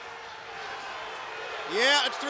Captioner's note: crowd boos